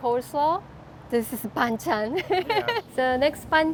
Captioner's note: laughs